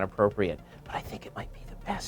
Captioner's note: whispering